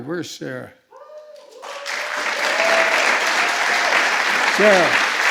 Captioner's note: applause